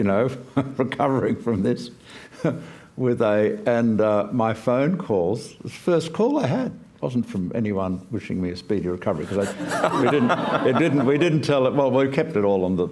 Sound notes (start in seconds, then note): 9.2 laughter